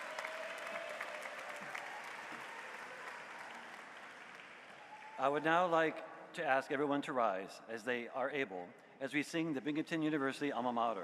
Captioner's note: applause